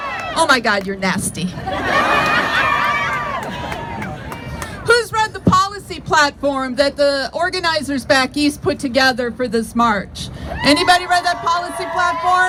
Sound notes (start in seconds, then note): 1.5 crowd laughs